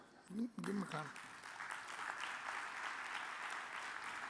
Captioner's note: audience claps